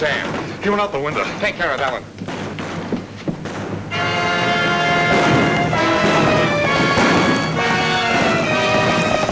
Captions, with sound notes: - Where's Sam? - He went out the window. - Take care of Ellen. (exciting music) (guns bang)